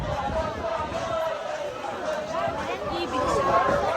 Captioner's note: chanting